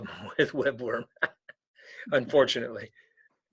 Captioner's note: laughing